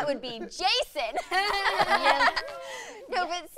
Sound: laughter

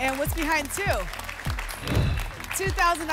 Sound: whoosh

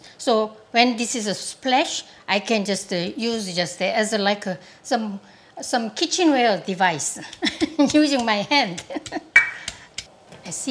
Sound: laughs

